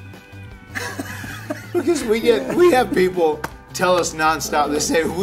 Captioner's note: laugh